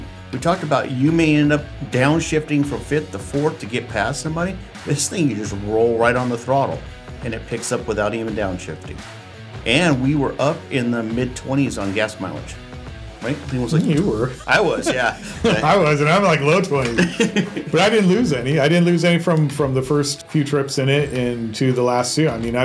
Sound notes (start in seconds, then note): 13.6 both chuckle; 16.7 laughs